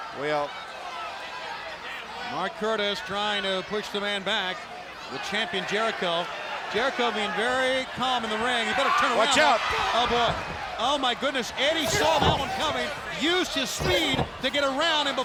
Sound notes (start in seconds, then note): 9.2 blows thudding